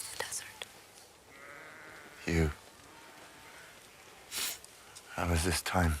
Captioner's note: sniffles